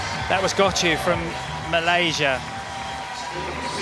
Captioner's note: applause